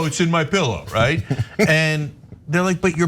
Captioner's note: laugh